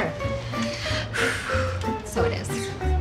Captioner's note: both sigh